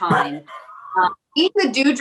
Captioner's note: laughing